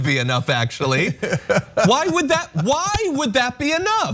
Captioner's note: laugh